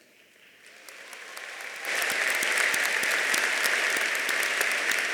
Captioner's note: audience applauding